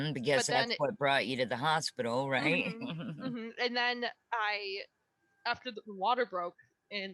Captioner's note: laughter